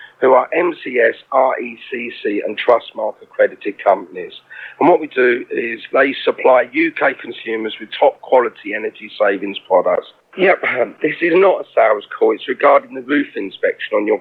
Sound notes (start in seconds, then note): 10.4 cough